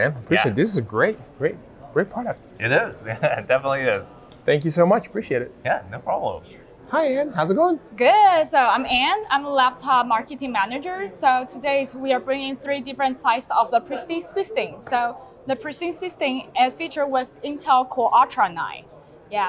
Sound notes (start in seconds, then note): 3.0 chuckles